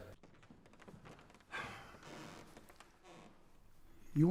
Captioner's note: sighs